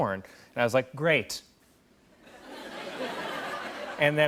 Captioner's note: laughter